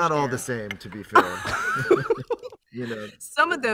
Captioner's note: laughter